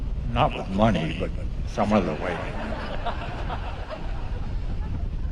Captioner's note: laughter